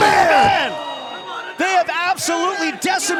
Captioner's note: crowd cheering